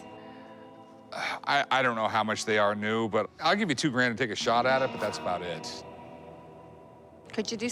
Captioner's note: none